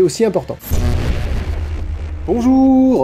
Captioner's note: whoosh